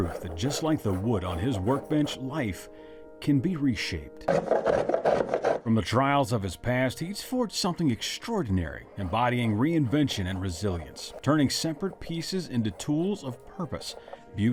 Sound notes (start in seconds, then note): 4.2 tool scraping